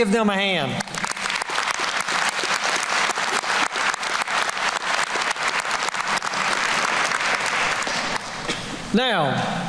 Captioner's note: applause